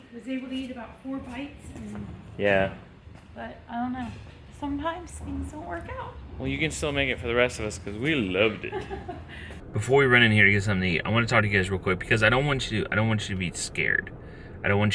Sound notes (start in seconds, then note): 8.6 laughs